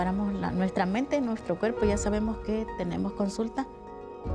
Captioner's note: Spanish